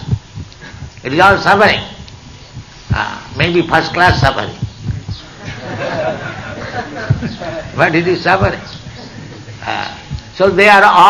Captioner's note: laughter